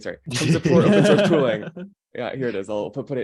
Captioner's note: everyone laughing